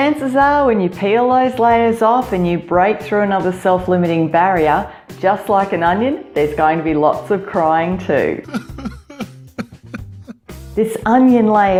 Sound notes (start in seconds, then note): 8.4 man Crying